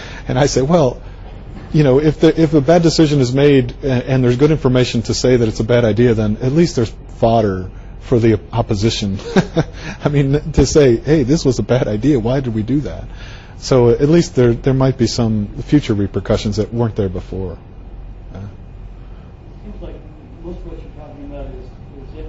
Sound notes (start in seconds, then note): 9.2 laughs